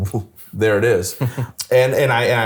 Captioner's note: laughs